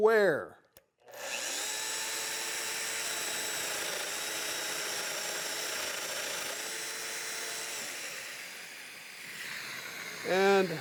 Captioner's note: domino cutter cutting